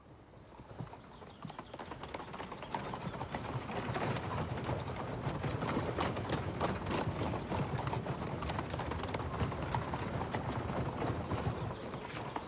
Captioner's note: noise of horse hoofs